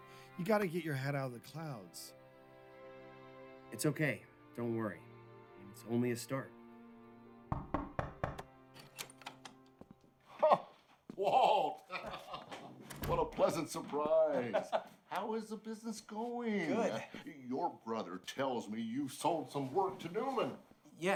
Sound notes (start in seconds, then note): 7.5 knock on door